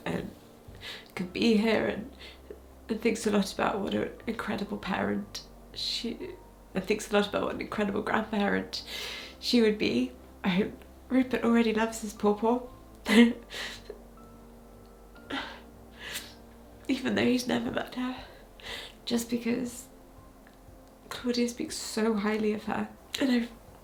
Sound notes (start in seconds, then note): 13.9 chuckles